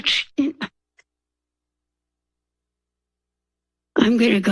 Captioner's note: pause